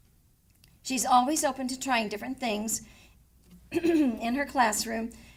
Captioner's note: clears throat